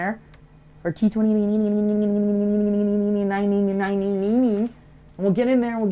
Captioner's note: rambling nonsensically